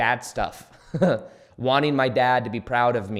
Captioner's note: chuckles